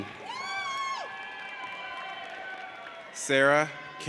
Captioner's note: audience cheers